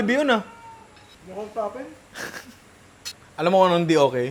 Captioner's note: chuckles